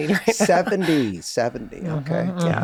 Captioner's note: laughing